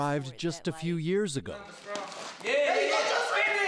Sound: wrestler shouting

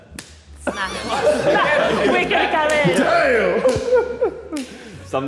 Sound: Sidemen laughing

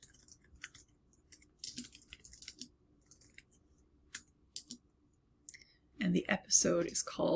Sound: keyboard clicking

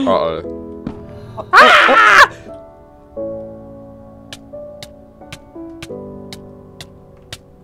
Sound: screaming

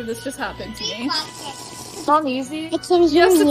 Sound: slurps coffee

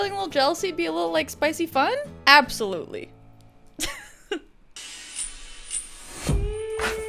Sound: laughs

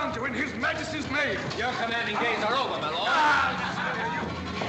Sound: groans

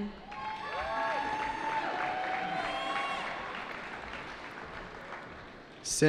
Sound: cheering

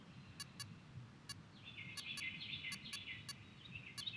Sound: birds chirping

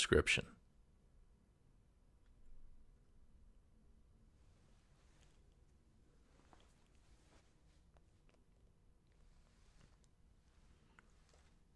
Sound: pause

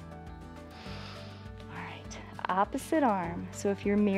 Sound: inhales

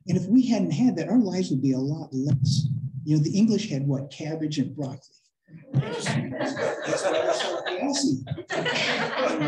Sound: laughter

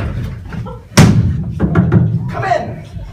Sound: knock knock knock

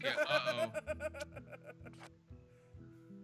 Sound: laugh

